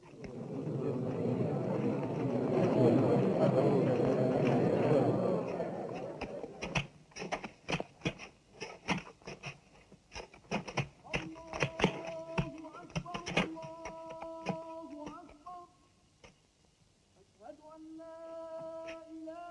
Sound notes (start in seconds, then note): 0.0 crowd murmuring; 6.7 tools striking sand; 11.3 singing in Arabic